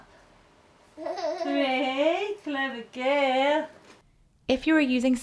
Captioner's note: giggles